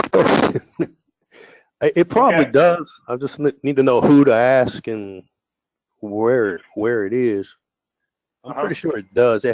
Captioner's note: laugh